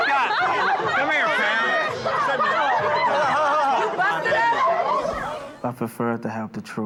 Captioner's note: chatter